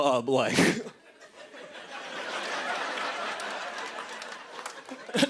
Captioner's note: laughter